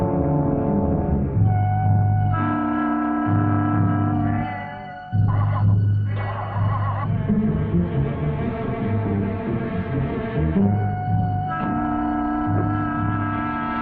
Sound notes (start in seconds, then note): 5.6 engine revving; 11.0 intense music